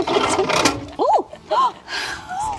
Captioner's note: chuckles